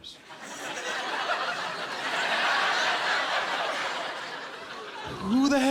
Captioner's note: laughter